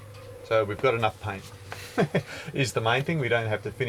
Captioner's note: laughs